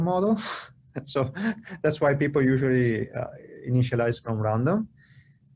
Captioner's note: laughter